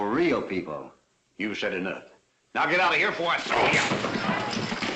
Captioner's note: punch